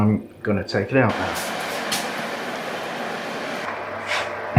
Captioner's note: oven roar